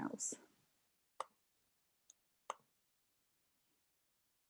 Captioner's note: quiet clicking